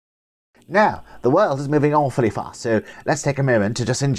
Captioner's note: posh accent